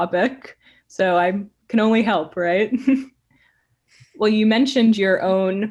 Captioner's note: chuckling